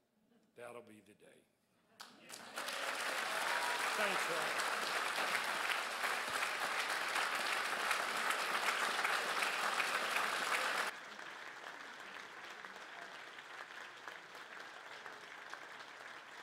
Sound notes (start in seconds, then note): 1.7 crowd applauds and cheers; 6.0 crowd applauds